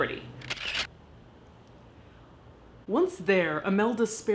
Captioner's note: camera clicks